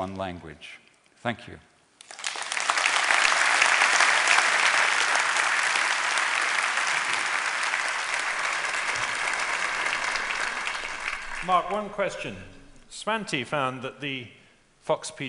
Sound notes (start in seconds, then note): 2.0 applause